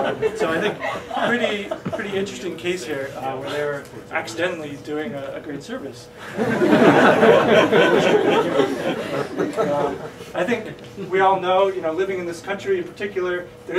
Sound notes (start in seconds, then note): 6.2 laughing